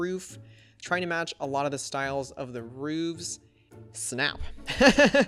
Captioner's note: laughs